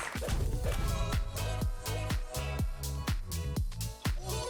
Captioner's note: logo thudding